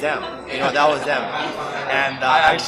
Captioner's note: laughs